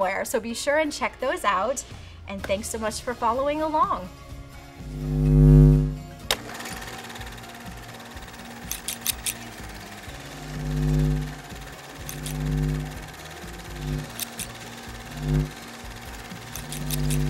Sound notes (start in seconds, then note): 8.6 scissors snip; 10.2 light bulb buzzes; 14.6 upbeat music